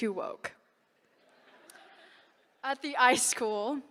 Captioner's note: laughter